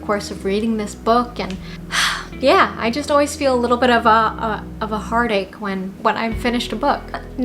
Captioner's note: sigh